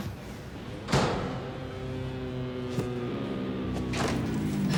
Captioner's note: door slams